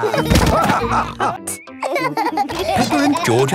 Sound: laughter; laughing

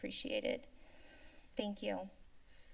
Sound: inhales

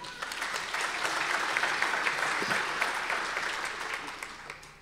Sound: audience applause

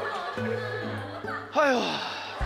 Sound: panicking

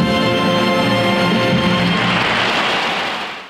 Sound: audience applauds

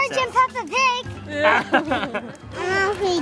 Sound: laughing

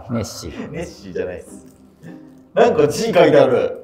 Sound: laughing

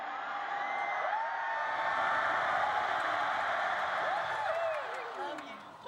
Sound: cheers, applause

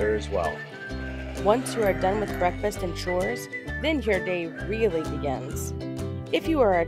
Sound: farm sounds

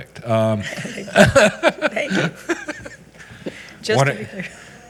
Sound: all giggling

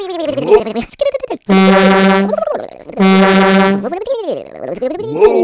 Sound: honk honk

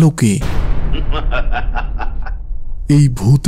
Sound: laugh

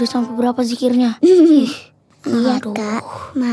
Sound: laugh

